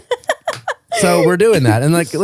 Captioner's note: laughing